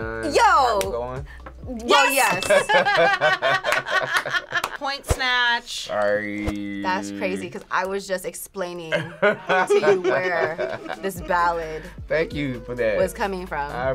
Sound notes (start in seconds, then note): 2.6 laughing